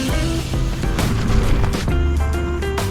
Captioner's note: wind